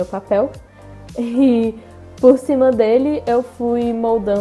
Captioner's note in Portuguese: risos